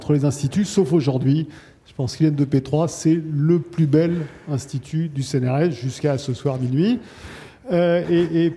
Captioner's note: laughs